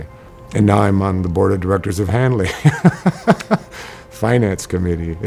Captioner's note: chuckles